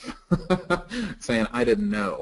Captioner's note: laughing